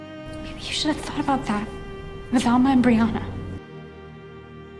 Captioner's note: whispering